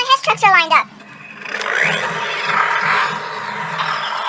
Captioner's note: Sound of 2014 Hess Truck starting up